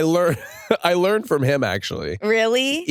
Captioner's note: chuckles